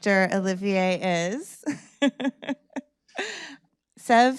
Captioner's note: laughing